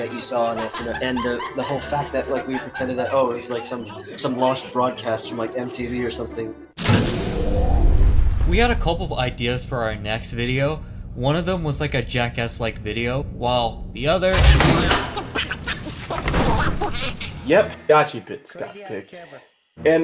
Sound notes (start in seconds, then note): 6.8 generator powering on